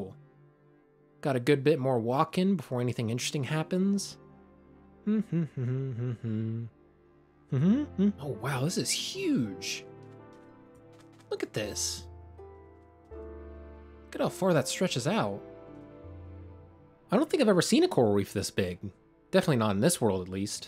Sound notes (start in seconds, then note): 8.7 humming